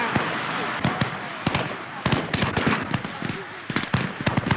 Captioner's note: group chattering